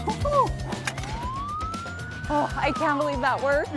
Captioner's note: police sirens blaring